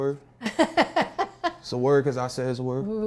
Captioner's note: laughing